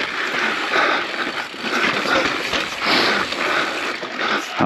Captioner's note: biker panting